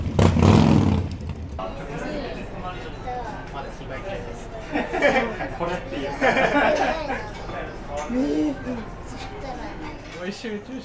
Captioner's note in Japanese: エンジン音; 会話